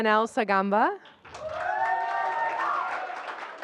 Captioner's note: applause